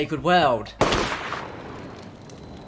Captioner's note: gunshot